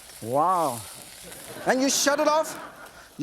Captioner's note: audience laughs